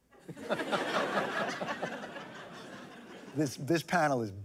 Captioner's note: laughter